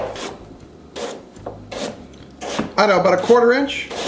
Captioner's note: knife slices